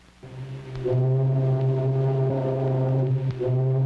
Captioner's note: horn bellows